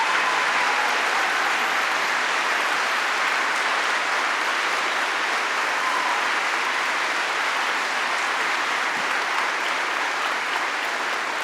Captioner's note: applause